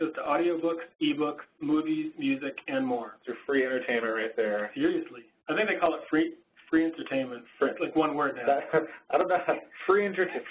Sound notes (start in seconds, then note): 3.3 voiceover; 8.7 voiceover